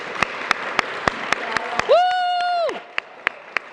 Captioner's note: applause